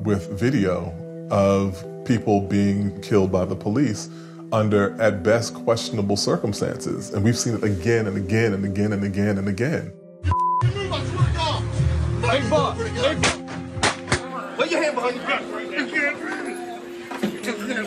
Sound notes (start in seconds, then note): 10.4 shouting